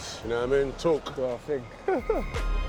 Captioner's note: laughs